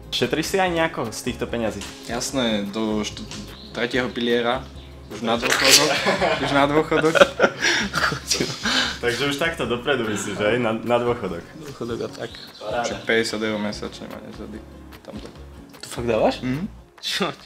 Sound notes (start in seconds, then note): 5.4 cracking out loud